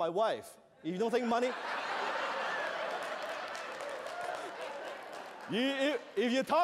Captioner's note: laughter